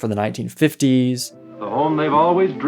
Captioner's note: soundbite of archived recording